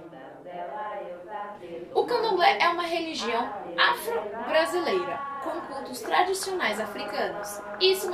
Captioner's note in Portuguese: Som de pessoas rezando em Yorubá; narrando